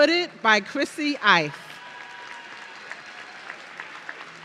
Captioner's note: audience cheering